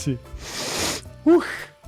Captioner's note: sniffs